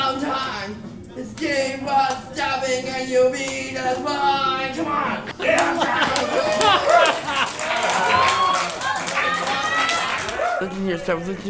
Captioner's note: applause and cheering